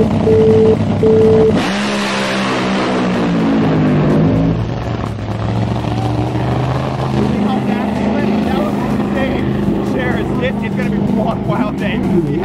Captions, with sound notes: (engine revs loudly) Whoa! Did you see how fast he went? That was insane. Sharers, this is gonna be one wild day.